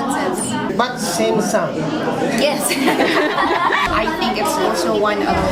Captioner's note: laughs